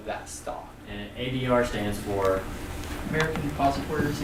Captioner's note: voiceover